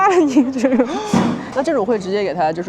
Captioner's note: sharp inhale